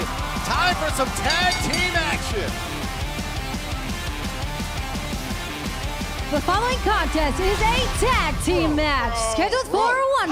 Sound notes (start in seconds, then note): 1.0 bell ringing